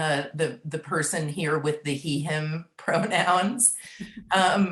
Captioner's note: laughs